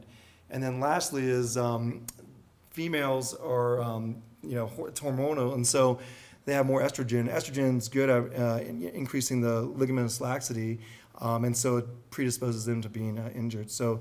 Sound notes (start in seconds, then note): none